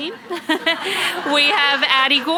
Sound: audience laughs

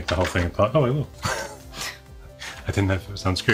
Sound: laughs

